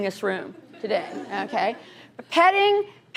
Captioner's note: laughter